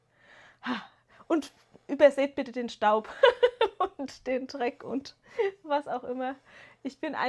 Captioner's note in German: gelächter